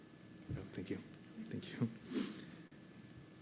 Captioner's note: sniffles